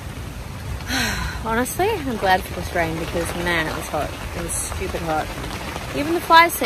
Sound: sighs heavily

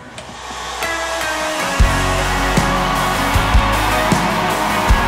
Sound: crowd cheering

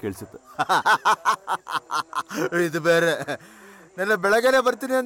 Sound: laughs

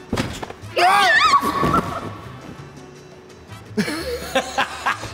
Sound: screams; both laughing

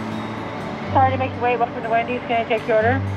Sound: female voice over intercom

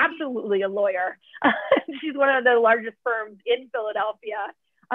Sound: laughter

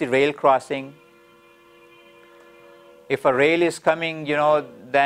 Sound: train horn sounding

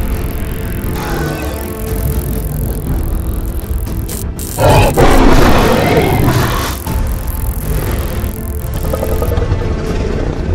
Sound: Indominus Rex growls

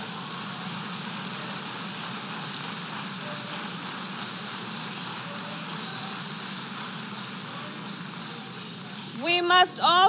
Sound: applause

